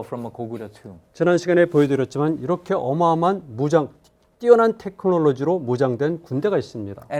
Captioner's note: speaking in Korean